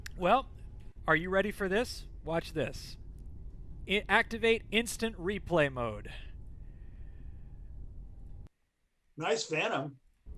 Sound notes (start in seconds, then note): 6.3 engine humming